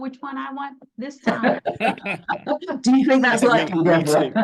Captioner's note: all giggling